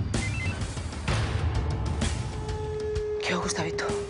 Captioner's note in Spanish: Suena el celular